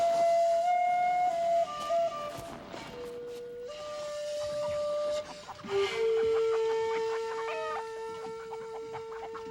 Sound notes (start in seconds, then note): 6.1 chickens clucking